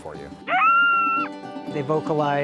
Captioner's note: coyote yowling